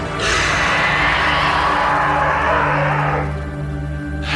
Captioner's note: snake growls